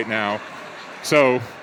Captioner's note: audience laughs